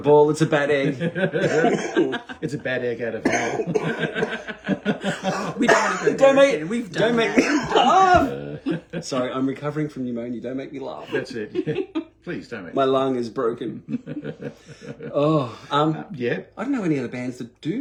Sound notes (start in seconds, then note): 0.7 laughter; 4.0 coughing; 11.0 laughing; 14.9 laughter